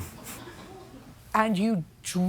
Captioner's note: chuckles; light laughter